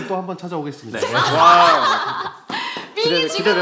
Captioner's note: laughter